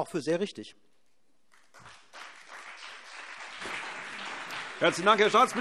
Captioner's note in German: Beifall CDU und BÜNDNIS 90/DIE GRÜNEN